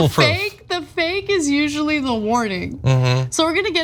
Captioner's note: laugh